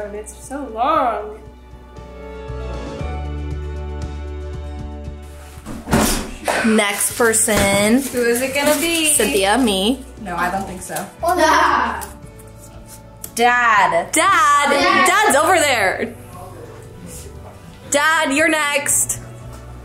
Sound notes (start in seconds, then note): 1.6 soft gentle music; 5.8 bang